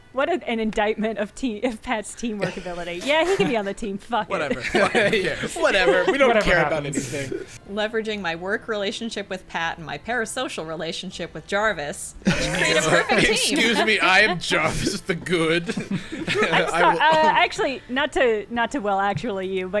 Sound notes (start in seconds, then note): 4.3 players laughing; 12.2 players laughing